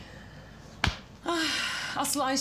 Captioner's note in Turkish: İç çekiyor